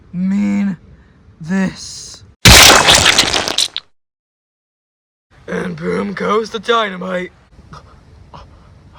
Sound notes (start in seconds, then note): 2.4 blood sounds; 7.6 Ryan breathing heavily